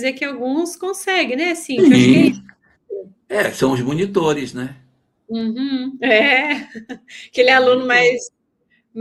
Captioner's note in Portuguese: risadas